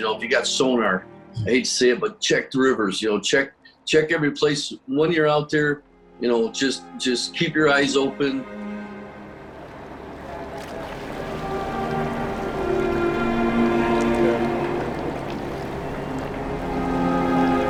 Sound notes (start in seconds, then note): 11.1 sad cello music; 11.1 water burbling